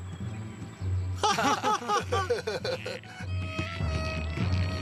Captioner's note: laughing